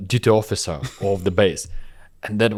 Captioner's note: laughs